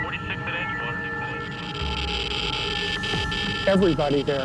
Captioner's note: electronic sound